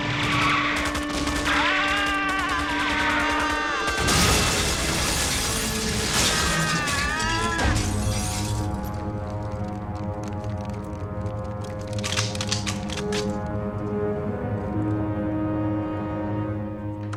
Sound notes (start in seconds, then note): 2.0 screaming; 11.7 clicking